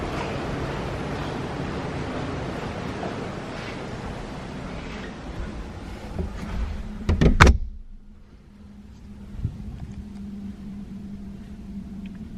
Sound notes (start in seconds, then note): 6.0 door closes